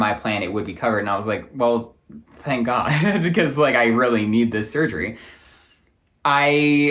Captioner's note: chuckling